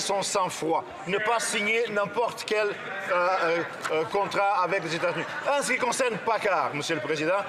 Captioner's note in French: rires